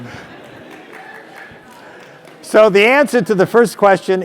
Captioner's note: applause